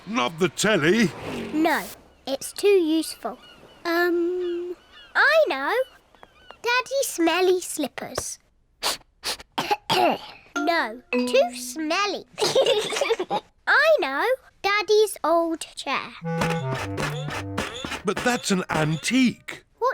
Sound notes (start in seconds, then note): 8.8 sniffs and coughs; 12.4 both laugh